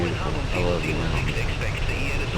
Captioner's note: radio chatter